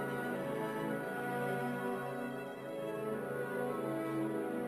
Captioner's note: none